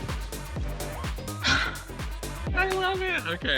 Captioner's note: sighs